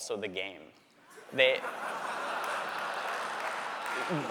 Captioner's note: laughter